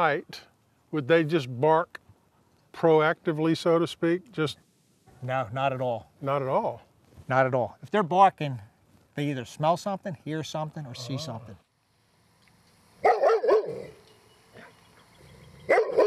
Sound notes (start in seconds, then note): 13.0 dog barks